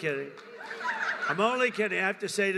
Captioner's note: laughter